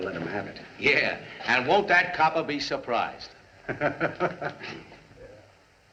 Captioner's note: laughs